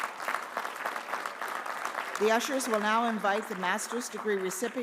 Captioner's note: applause